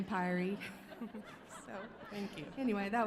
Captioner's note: audience laughing